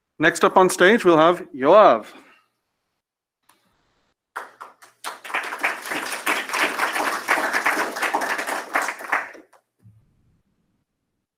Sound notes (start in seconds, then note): 4.3 applause